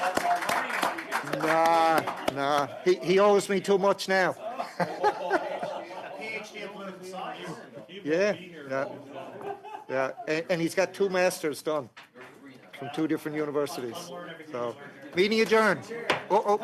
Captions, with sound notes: O'Brien just got accepted into his Ph.D. chair chair clock. [ Applause ]